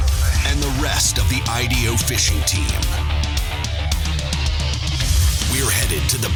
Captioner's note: voiceover